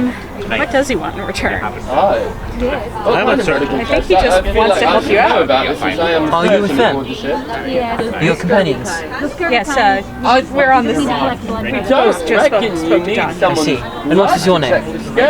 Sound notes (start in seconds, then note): 2.5 people chattering